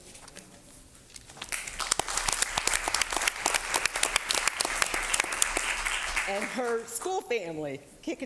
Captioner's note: applause